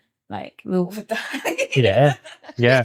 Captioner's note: laughing